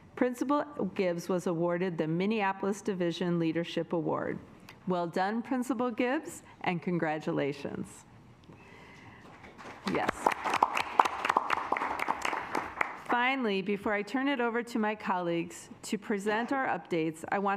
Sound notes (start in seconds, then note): 9.4 assembly clapping